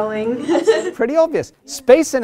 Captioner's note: chuckles